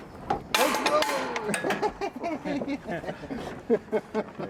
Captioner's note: laughs